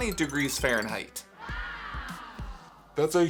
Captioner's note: amazed children gasping